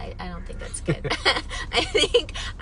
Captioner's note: both laughing